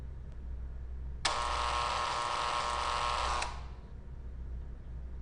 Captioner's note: electronic buzzing